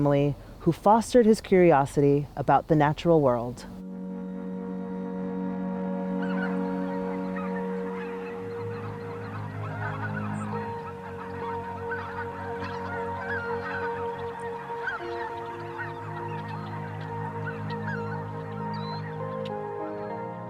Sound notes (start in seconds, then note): 4.2 gentle music; 6.5 geese honking